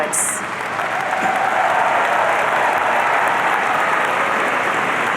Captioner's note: audience cheering